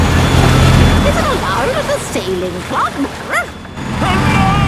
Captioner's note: barks